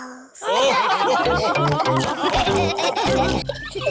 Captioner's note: laughter